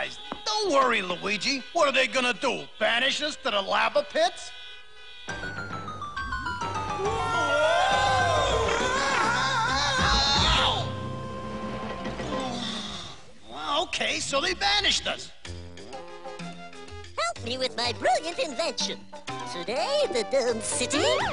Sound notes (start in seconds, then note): 6.6 Mario & Luigi shouting